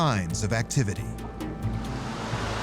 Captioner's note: steam hissing